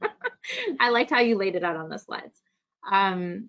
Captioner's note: laughs